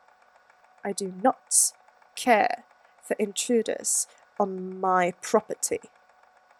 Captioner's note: through gritted teeth